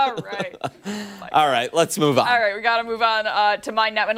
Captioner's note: laughter